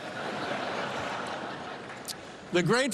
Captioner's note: laughter